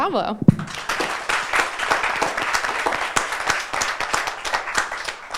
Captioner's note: audience applauding